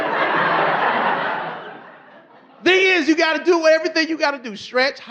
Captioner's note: audience laughing